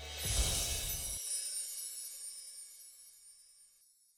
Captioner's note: gentle chiming